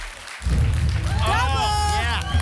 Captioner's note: rumbling sounds